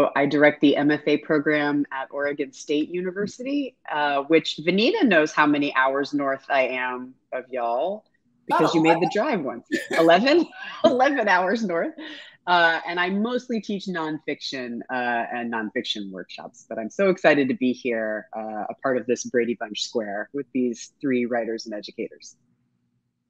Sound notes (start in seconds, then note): 9.7 laughs